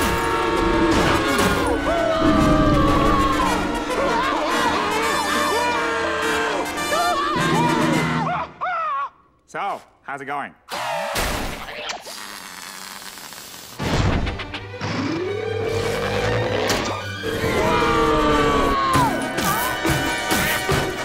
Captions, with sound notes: [screaming] So, how's it going? [screaming]